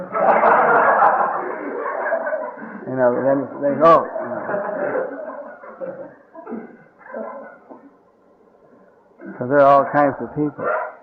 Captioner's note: laughter